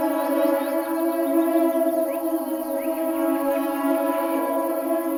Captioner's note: birds chirping